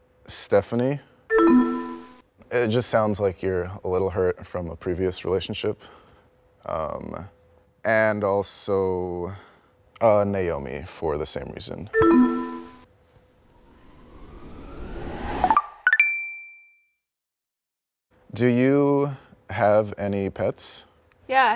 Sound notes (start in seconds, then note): 13.4 air whooshing; 15.7 ascending beeping